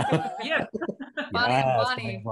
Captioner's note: laughing